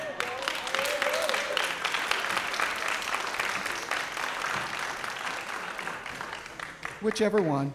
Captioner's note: applause